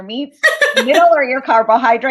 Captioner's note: laughter